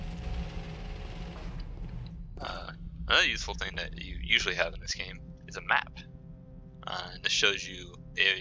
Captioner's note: whirring stops